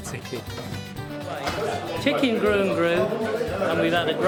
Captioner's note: background chattering